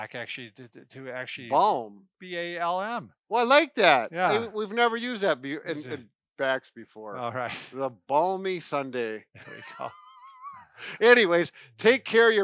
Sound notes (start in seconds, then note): 9.4 laughs